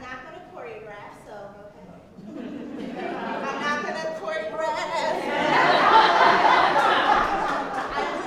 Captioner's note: laughter